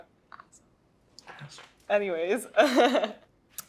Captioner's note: whispers; chuckles